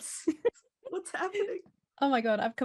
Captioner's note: laughing